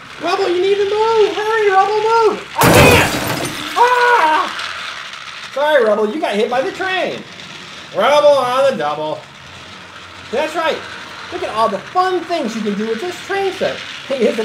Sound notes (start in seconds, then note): 0.0 voiceover; 2.5 crashes; 3.6 screams